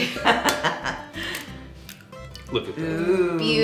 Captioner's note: laughing